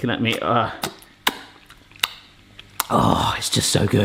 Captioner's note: lip smacking